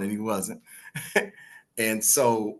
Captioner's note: laughs